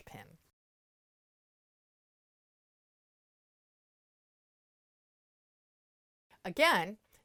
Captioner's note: no Sound Present